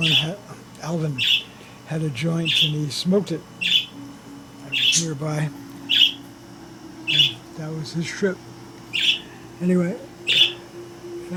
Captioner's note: parakeets chirping